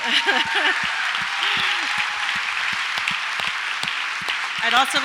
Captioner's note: audience applauds and cheers